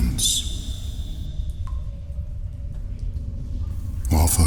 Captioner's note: cave noises